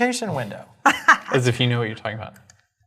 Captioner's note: laugh